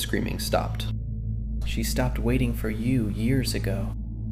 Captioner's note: childlike whisper; exhausted